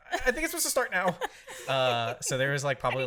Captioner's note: laughs